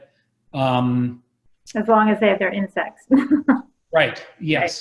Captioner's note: laugh